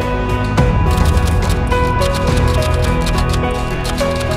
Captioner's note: typewriter clicking